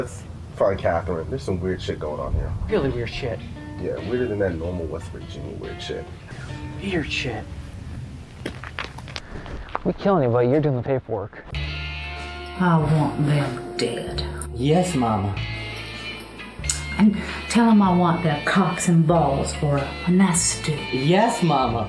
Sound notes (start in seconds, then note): 7.5 walking; 11.5 guitar strum